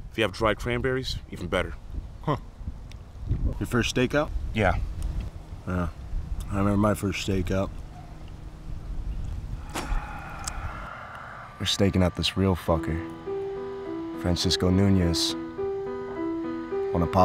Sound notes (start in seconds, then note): 9.6 spits; 15.5 piano music